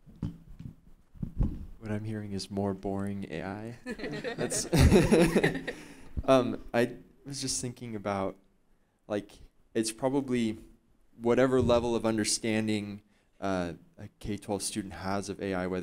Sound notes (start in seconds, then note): 3.9 laughing